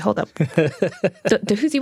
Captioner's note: laughs